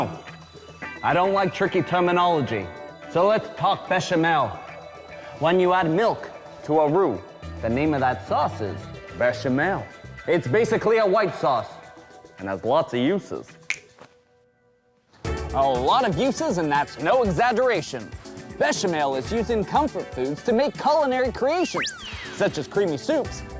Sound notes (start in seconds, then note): 13.6 snaps finger